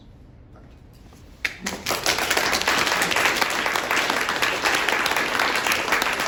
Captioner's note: applause